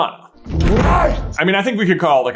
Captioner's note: slo and deep